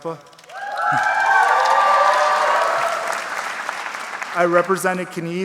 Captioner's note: audience cheering